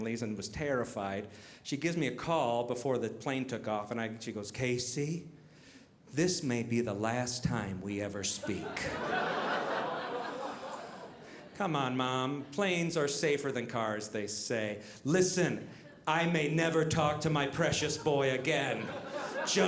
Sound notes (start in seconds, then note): 8.4 audience laughing